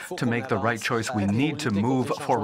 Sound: speaking French; voice of translator

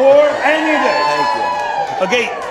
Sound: audience cheering

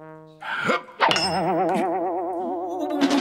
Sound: boing!

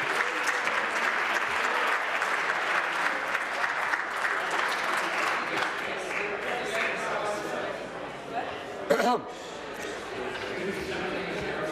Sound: applause

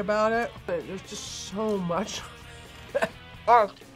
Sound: laughs

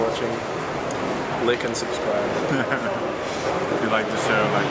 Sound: chuckles

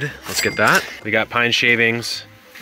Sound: till ringing

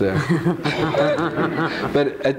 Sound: all laughing

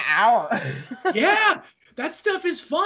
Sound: laughs

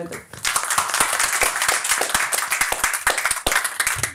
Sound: audience clapping

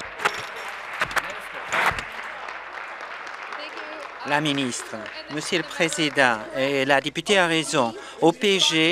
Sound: applause

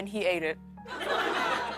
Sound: laughter

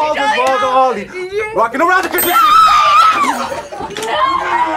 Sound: screams

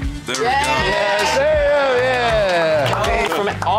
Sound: clapping

